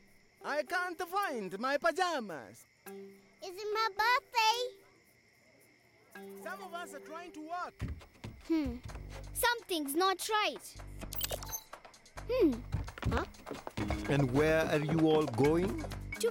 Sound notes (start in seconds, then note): 2.6 insects chirping